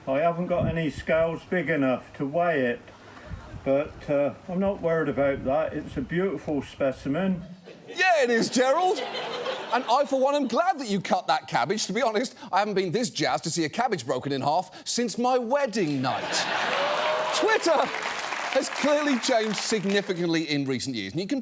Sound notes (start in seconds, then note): 7.6 audience laughs; 15.8 audience laughs, cheers